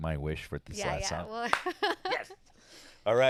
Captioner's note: laughs